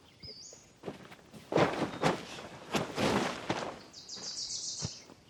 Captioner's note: tent rustling